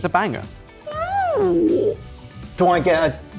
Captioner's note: squealing